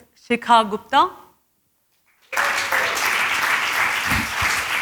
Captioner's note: applause